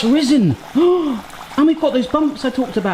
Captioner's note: gasps